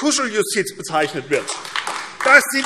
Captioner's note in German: Beifall AfD